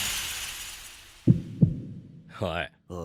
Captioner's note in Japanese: 大瀬の心音